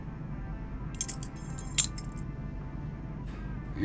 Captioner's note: keys jangling